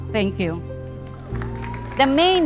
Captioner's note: audience applauding